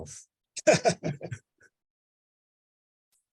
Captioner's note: laughing